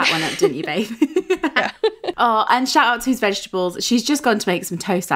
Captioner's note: laughing